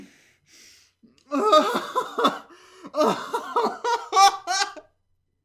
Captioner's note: laughter